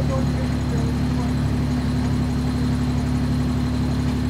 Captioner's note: engine humming